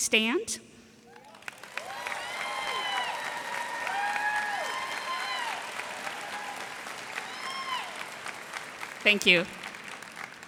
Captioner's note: cheers and applause